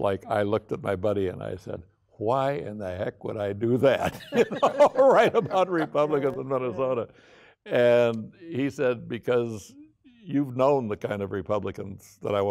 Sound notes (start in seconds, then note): 4.0 laughing